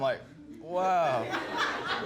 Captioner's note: laughter